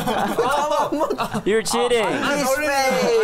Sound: chuckles

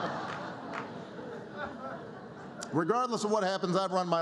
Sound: laughter

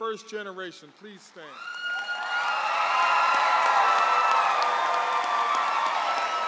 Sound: audience applauds and cheers

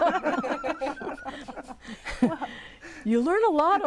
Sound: laughing

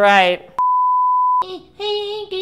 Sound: laughs; beep

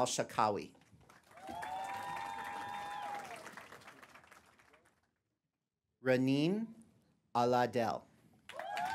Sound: applause; applause

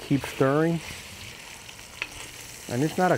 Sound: meat sizzling

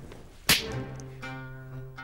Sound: slap

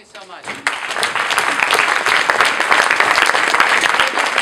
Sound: people applauding

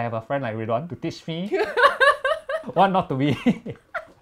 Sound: both laugh

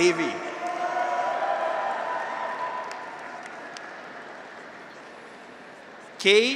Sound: graduates cheer; audience applauds

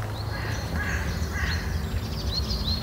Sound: crows, birdsong

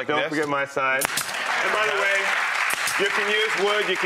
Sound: audience applauding

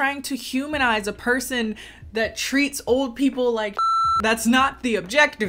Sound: beep

